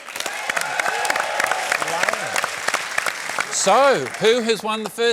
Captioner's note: cheering, applause